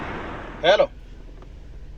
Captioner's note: traffic Noise